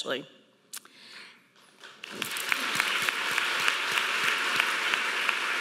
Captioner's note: audience applauding